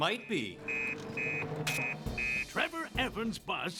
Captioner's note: beeping